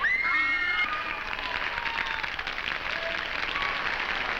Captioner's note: audience clapping